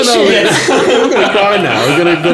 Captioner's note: laughing